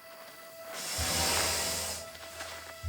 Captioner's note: hisses